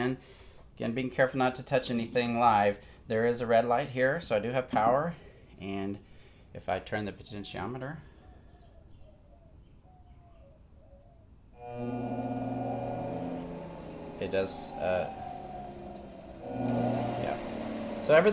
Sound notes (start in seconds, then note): 11.6 motor turns on